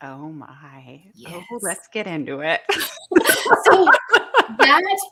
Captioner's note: laughs